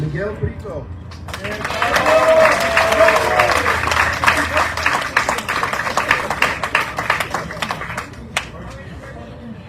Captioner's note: audience cheering, applauding